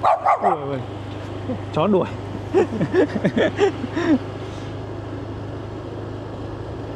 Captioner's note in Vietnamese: Tiếng cười